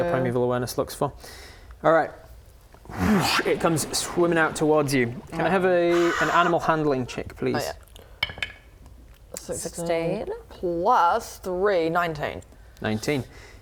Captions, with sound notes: your Primeval Awareness looks for All right *whoosh* It comes swimming out towards you Can I have an animal handling check, please? - Oh yup 16 + 3 = 19 19